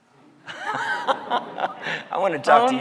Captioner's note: laughing